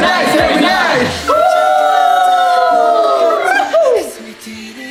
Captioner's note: cheer